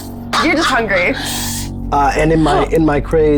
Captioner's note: laughs